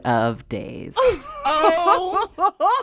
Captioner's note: laughter